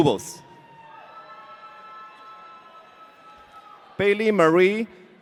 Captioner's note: audience cheering